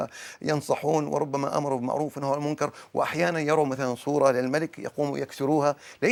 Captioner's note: speaking in Arabic